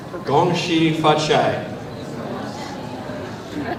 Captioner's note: foreign language